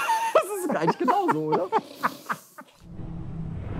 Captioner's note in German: lacht